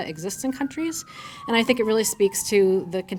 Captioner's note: sirens wailing